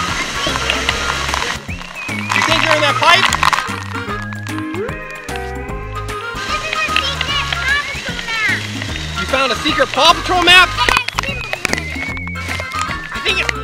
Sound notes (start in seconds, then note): 3.1 voiceover; 5.2 upbeat music; 9.6 voiceover; 13.5 voiceover